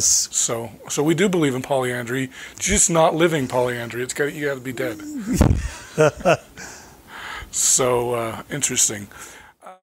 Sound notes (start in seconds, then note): 4.7 chuckling